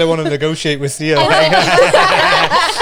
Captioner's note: laughs